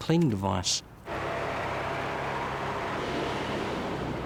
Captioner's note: airboard whirring